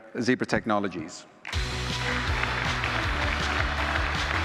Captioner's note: applause